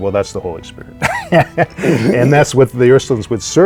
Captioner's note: laughs